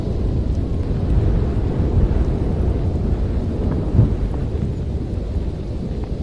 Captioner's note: wind blowing